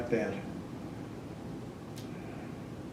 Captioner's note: none